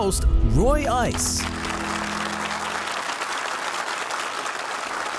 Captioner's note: audience clapping